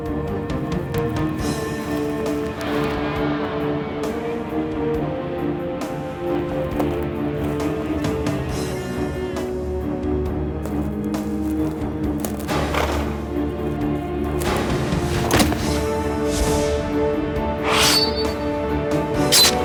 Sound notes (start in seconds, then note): 2.1 suspenseful music continues; 8.9 suspenseful music continues; 12.6 horse huffs; 15.0 dramatic music; 15.3 Hanee thuds; 19.2 sword slashing; 19.2 sword pings; 19.4 dramatic music